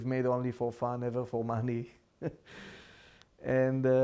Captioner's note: laughing